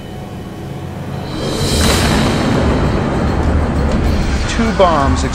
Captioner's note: explosion